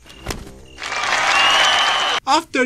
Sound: aplauses

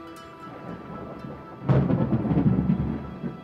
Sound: wind blowing; thunder rumbling

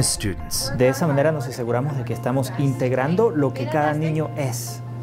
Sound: Spanish

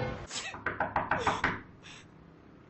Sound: door knocking

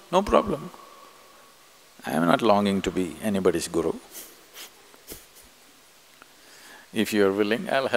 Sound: laughs

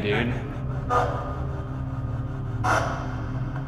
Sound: radio feedback

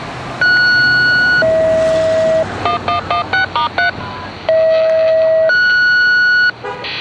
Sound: Station 11 Fire Tone

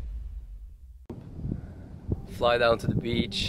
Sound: air whooshing

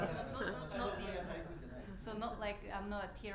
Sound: audience laughs; speaking in foreign language

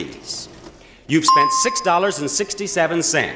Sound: bell chimes

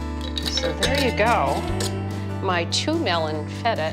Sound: mid tempo country music; jar lids rattling

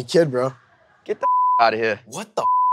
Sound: beep

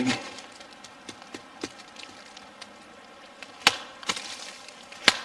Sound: thumping; banging

